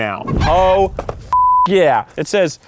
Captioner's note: beep